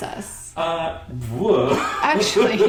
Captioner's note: laughter